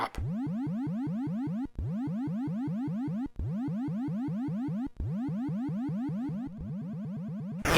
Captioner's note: rhythmic mechanical humming